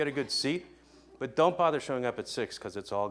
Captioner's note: laughing